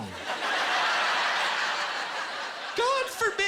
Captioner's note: laughter